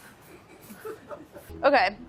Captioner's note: crew laughs